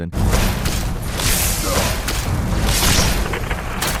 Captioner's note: swords clanking